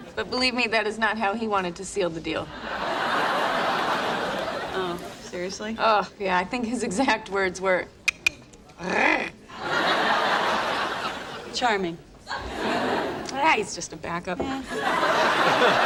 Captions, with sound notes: - But believe me, that is not how he wanted to seal the deal. (laugh track laughs) - Oh, seriously? - Oh yeah, I think his exact words were (Phoebe clicks tongue and purrs) - Charming. - Yeah, he's just a backup. - Yeah.